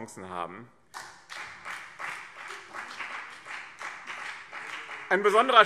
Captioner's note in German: Beifall BÜNDNIS 90/DIE GRÜNEN